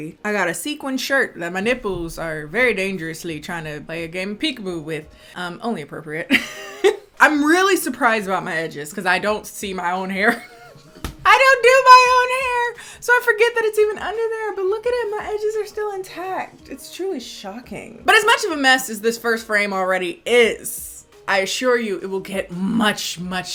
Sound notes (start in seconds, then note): 6.7 laughing; 10.2 laughing